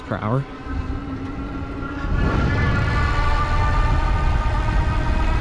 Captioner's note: bike engine roaring